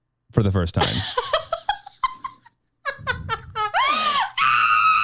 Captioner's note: laughs